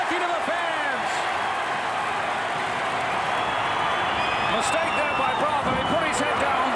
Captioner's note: applause